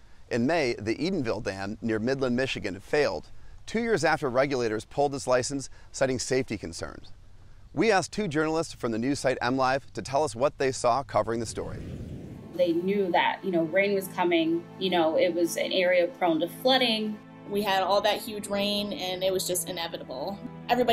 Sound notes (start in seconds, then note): 11.4 swashing sound